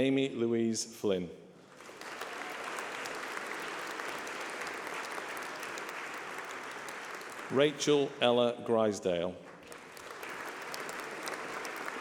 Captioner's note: applause